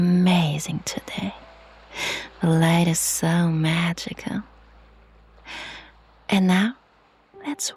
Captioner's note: sighs and gasps